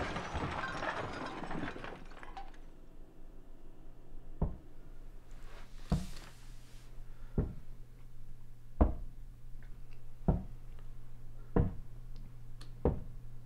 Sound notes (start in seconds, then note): 4.4 footsteps walking up stairs